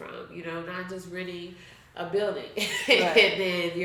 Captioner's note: chuckles